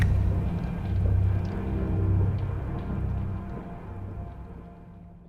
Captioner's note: thunder rumbling